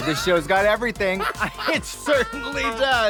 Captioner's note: Trixie laughing